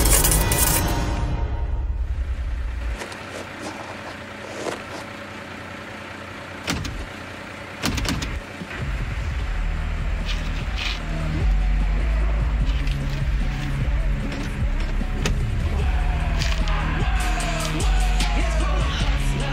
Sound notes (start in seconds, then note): 7.8 latch door sound; 9.4 muffled rock music